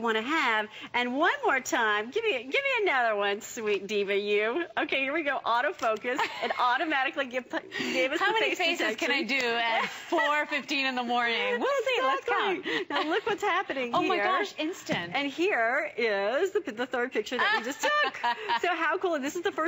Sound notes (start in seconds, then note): 9.7 laughter